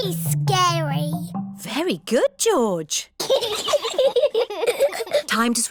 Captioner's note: both giggle